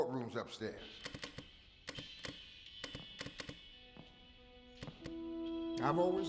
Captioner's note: flipping switches